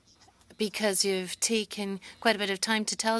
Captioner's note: speaking French